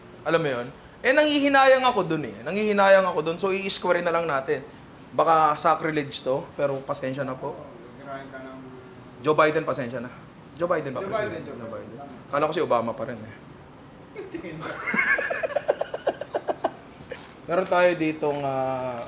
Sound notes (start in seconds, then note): 14.6 laughs